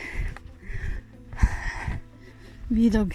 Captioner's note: sigh